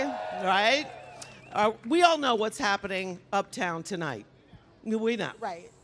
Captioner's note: applause